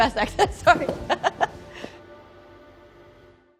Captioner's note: laughter